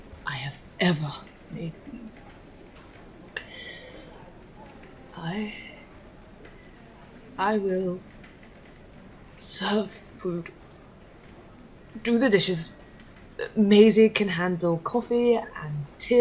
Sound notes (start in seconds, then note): 3.3 inhaling